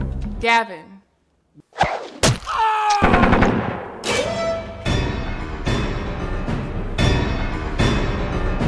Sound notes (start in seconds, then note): 2.5 Gavin shouting; 3.0 gun firing; 4.0 suspenseful orchestral music